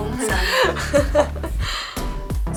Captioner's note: laughs